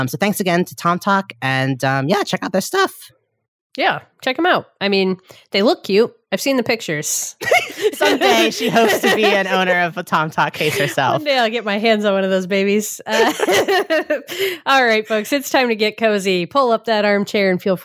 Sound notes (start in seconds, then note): 7.4 laughing